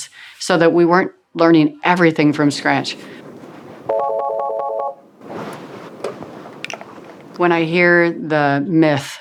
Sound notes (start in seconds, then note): 3.8 phone ringing